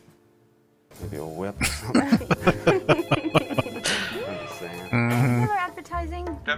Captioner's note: laughing